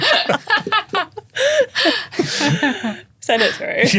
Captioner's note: everyone laughing